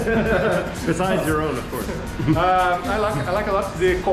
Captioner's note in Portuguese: risos